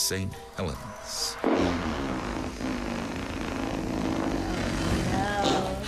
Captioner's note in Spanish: ruidos de flatulencia